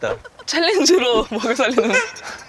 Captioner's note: Swish